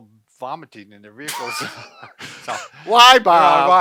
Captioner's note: both laugh